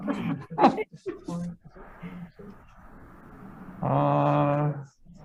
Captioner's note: senator faintly speaking